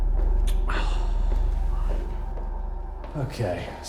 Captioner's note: Danny sighs